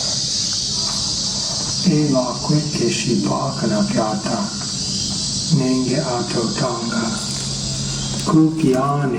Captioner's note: male voice speaking in Indigenous Myaamia language